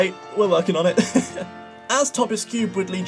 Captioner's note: laughs